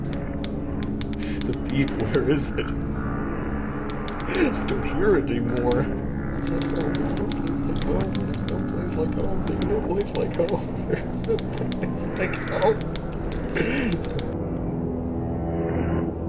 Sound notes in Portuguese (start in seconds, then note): 4.2 choramingando; 6.4 Jangling, clicando; 7.1 choramingando; 10.7 Jangling, clicando